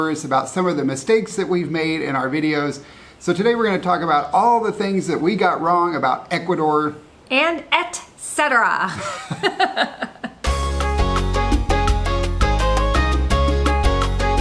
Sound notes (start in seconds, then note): 8.9 laughing; 10.4 upbeat music